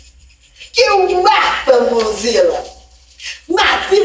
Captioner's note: speaks in another language